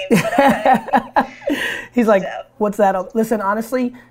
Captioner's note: laughs